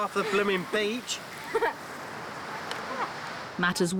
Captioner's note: laughs